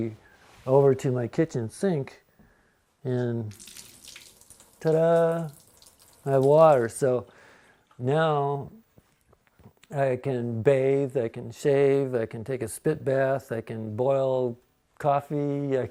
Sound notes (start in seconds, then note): none